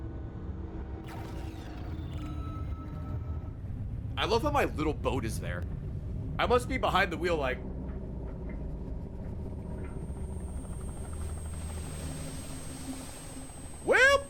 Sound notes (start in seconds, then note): none